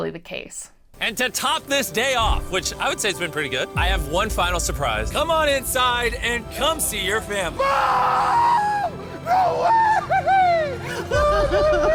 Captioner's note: laughter